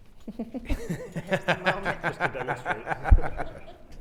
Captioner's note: all laughing